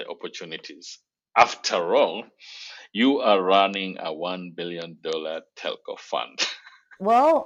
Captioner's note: laughs